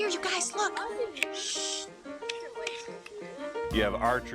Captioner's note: children talking